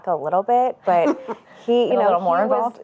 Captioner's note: chuckles